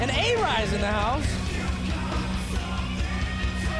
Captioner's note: crowd cheering